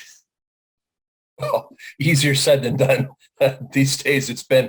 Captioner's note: chuckles